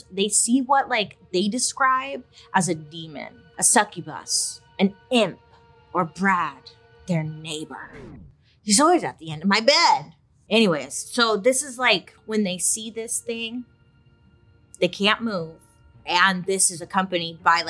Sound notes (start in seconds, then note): 4.9 eerie music; 7.7 record scratches